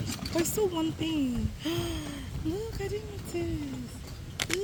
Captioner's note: gasp